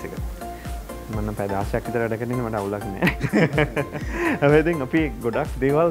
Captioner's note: ha-ha